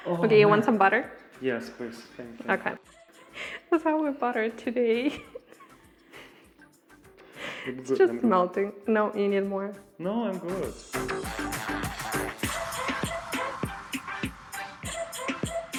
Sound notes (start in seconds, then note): 5.0 laughs; 11.7 upbeat music